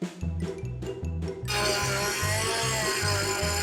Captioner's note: buzz sawing